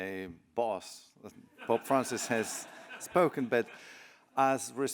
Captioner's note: laughter